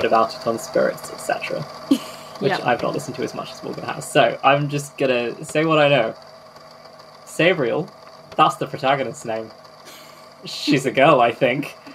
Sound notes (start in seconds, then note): 1.9 laughing; 10.4 laughs